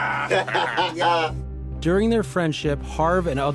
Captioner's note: laughing